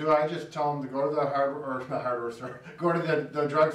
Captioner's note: chuckles